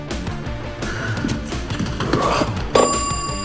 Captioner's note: sighs